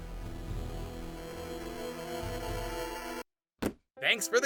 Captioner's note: dramatic whirring